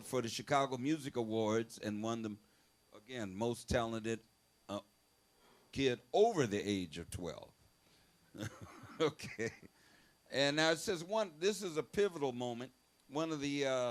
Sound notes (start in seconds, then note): 8.4 laughs